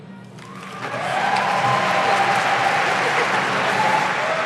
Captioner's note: audience applauding